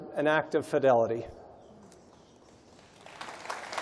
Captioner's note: applause